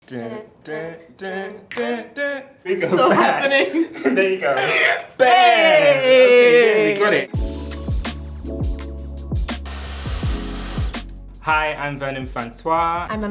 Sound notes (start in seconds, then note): 1.7 both snapping and clapping; 3.8 both chuckling; 7.3 slow hip-hop music